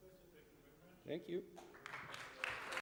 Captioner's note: applause